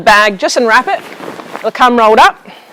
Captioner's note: bag rustling